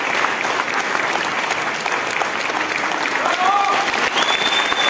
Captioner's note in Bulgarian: аплодисменти